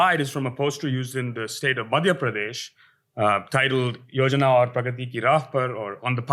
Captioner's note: hindi